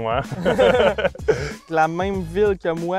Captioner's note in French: rires